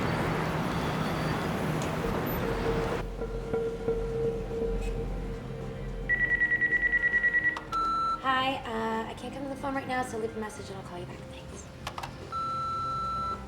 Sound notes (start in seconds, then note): 6.1 phone ringing; 12.3 machine beeps